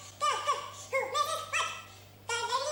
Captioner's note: humming